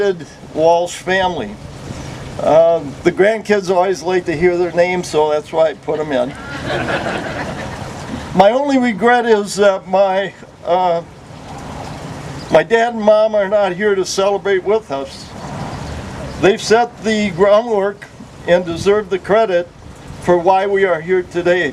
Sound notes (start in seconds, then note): 6.2 laughter